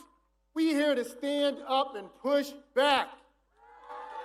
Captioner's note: cheers and applause